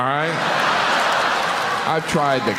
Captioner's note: audience cheering; audience clapping